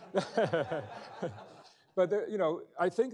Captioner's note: laughing